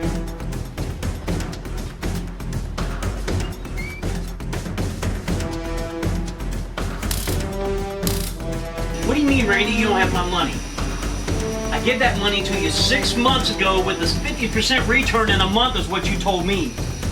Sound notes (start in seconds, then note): 8.0 stun gun crackling